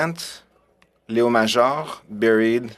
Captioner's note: speaking French